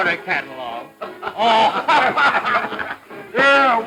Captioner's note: all laugh